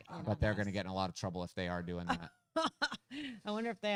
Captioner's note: laughs